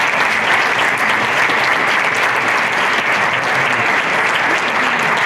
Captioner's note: applause